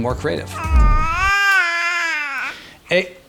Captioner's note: babbling